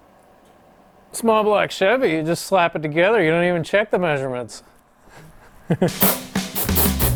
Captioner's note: laughs